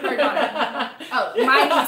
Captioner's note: laughter